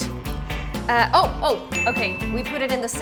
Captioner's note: bell dings